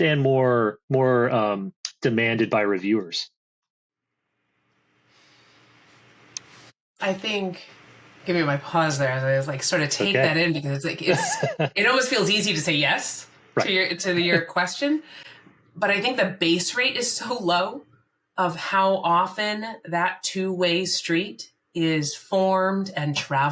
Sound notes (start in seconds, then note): 11.0 laughs